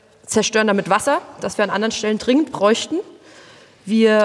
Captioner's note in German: none